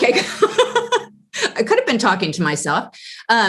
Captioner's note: laugh